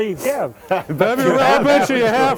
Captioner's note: laughing